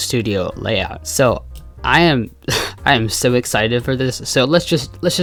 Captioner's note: laughs